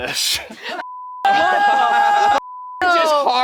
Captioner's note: everyone exclaiming